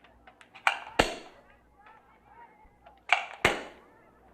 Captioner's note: rocks pop off